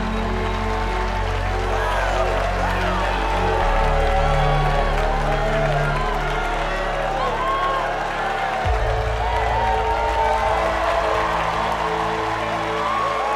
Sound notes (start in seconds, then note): 0.3 crowd cheering and applauding; 2.7 all cheering